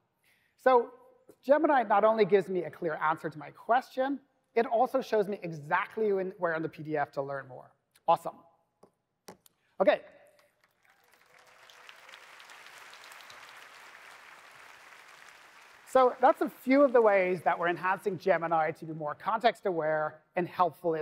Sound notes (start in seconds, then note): 10.4 applause